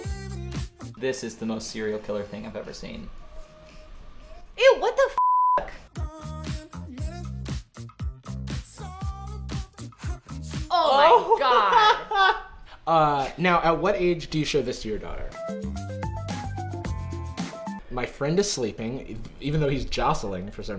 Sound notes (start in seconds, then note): 5.2 beep; 5.6 upbeat music; 15.2 upbeat music